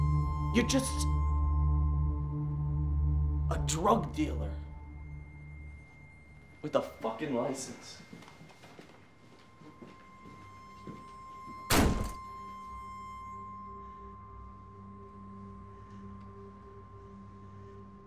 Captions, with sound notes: You're just a drug dealer with a fuckin' license. [door slams shut] [piercing high-pitched tone over ominous electronic music]